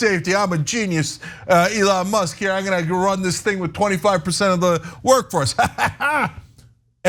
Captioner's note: laugh